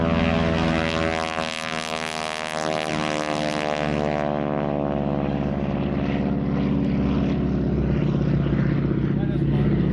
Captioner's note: engine sound from Harvard T6 taking off